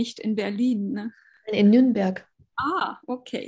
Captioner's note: speaking german